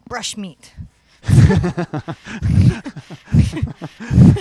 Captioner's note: both laugh